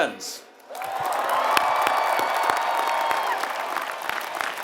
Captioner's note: applause